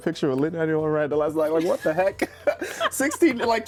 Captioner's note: laughs